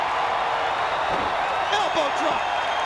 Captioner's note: crowd cheering